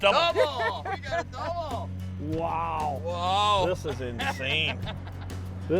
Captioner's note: laughing